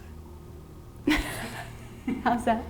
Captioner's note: laughter